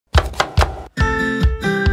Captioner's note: knife chops; bright music